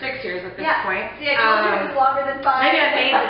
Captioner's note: laughing